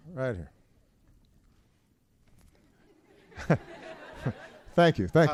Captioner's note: laughter